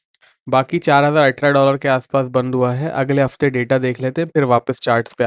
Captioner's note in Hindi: नाक से की जाने वाली आवाज़